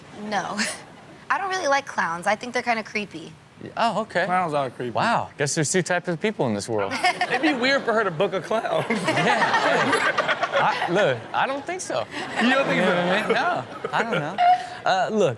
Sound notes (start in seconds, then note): 6.9 Chanel laughs; 9.2 all laugh